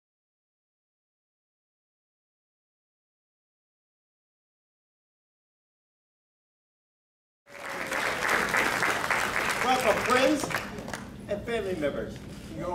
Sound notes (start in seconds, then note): 7.5 crowd cheering